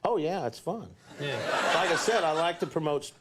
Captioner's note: audience laughs